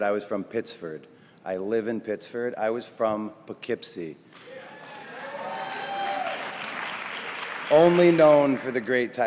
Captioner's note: applause